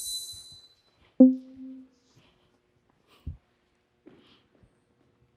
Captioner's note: banner dinging